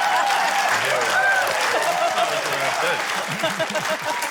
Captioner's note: laughter, cheering, applause